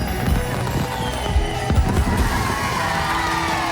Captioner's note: crowd cheering